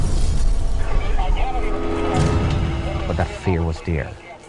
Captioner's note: sounds of crashing and police radios